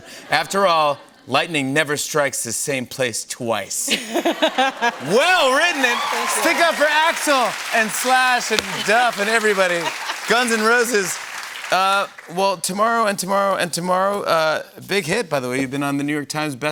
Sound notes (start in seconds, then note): 3.9 laughs; 6.4 cheers and applause